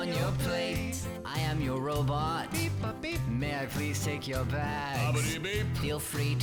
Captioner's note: beep-bop, beep